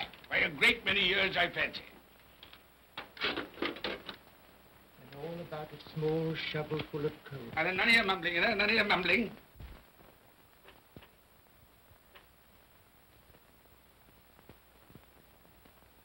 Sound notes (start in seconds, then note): 2.9 coal pellets clatter